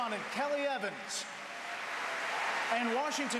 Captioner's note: applause